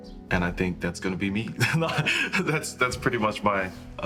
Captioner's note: laughs